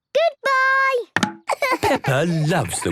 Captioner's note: laughing